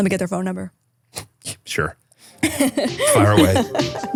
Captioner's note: chuckling; chill music